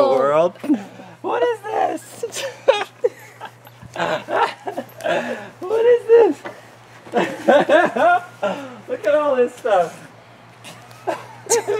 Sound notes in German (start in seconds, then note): 2.0 Lachen; 7.0 Lacht